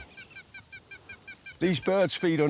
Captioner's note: bird calls